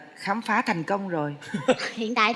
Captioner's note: laughing